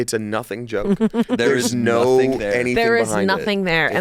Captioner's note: laughs